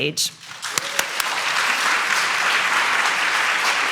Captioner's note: audience applauds